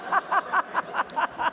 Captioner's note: laugh